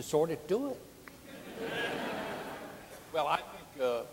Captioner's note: audience laughing